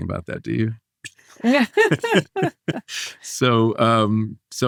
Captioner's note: all laughing